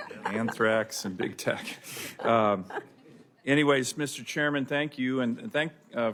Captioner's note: laughter